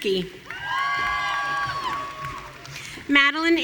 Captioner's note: audience cheering